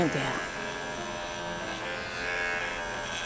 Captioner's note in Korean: 클리퍼 소리